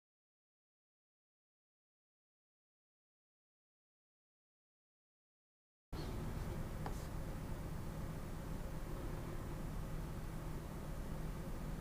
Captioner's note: silence